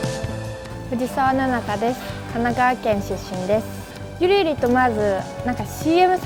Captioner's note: speaking in foreign language